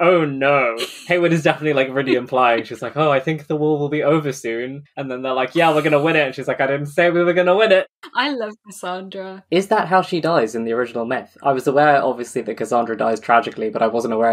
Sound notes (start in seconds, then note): 1.1 laughs